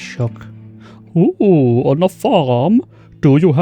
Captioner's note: exaggerated posh accent